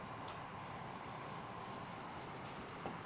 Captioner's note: ambient kitchen noise